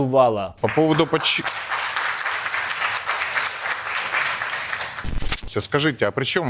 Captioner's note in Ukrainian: аплодисменти